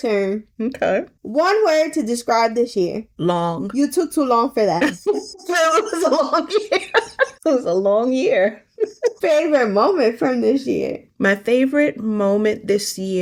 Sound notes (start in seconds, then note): 4.8 laughing